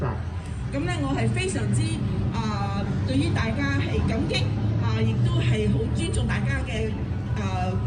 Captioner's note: speaking foreign language